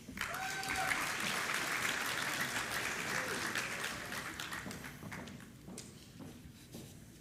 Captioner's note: applause